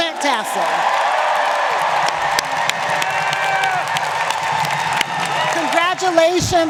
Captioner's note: audience cheering and applauding